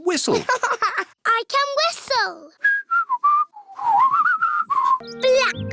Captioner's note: laughs; whistles